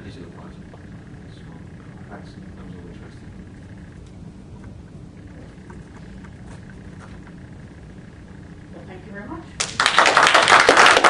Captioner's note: applause